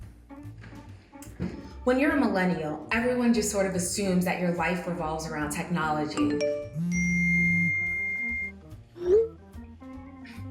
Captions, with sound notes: When you're a millennial, everyone just sort of assumes that your life evolves around technology. [PHONE BEEPS AND VIBRATES]